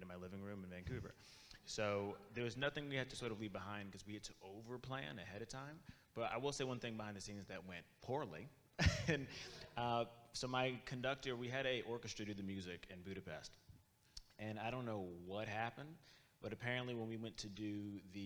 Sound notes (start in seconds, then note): 8.8 laughs